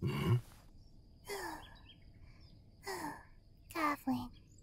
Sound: snoring lightly

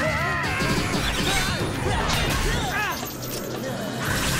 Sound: screaming; grunting

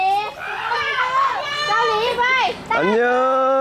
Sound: laughing

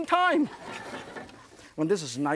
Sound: audience laughs

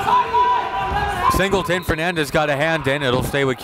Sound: whistle blows

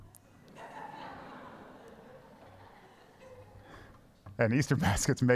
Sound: congregation laughs

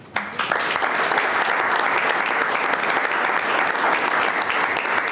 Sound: everyone clapping

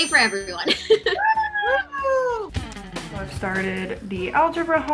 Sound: cheering

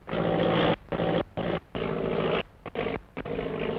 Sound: engine sputtering

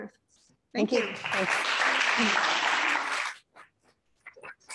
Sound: applause

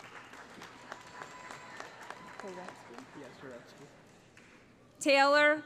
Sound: applause

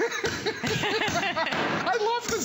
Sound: laughter

